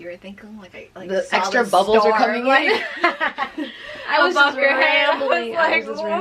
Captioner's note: laughing